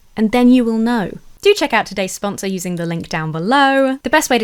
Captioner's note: none